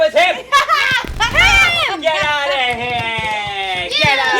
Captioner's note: laughing